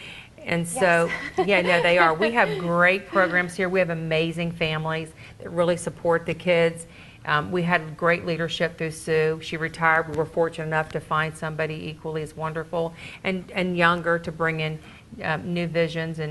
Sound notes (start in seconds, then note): 0.8 laughs